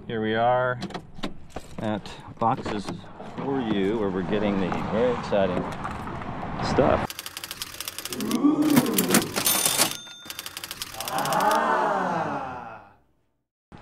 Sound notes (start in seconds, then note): 7.1 typewriter clicking; 8.8 cash register bell rings